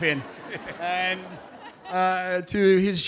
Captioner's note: audience laughing